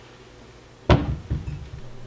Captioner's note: door close thump